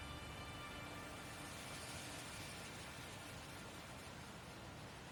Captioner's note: waves crash